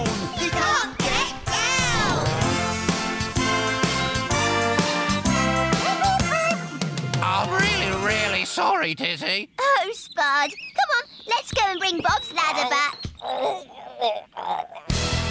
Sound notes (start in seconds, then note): 4.9 bird toots; 12.4 spud groans